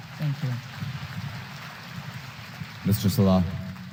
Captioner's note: applause